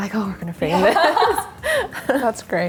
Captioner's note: everyone laughs